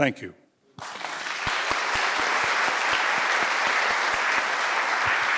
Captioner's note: audience applauding